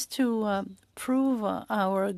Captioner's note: speaking French